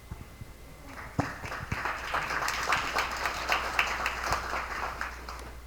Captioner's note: attendees applauding